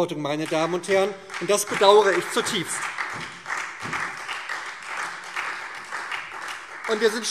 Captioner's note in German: Beifall SPD und Freie Demokraten